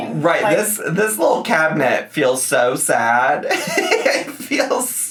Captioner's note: laughs